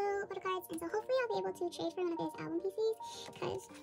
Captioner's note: big breath